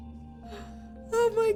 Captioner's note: gasp